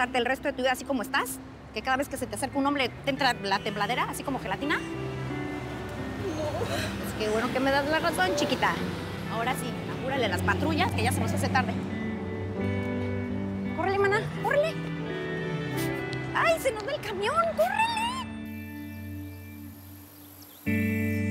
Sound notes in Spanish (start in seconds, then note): 5.9 llorando